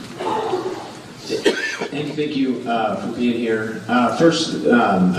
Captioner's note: cough